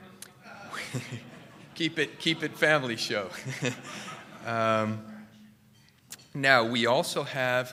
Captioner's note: laughter